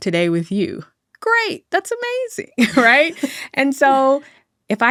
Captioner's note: chuckling